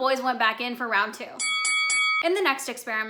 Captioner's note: bell chiming